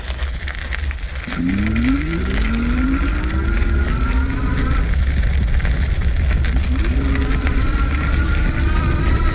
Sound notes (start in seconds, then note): 1.6 motor humming